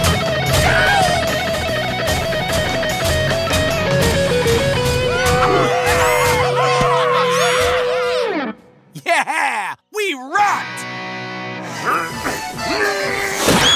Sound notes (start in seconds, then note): 1.1 guitar playing; 5.1 cheering